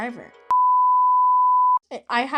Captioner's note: emergency Broadcast beep